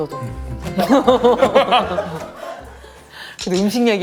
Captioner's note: hahaha